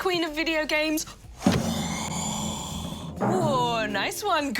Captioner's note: exhales heavily